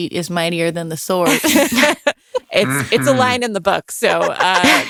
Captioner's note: laughing